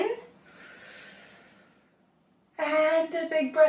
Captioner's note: inhale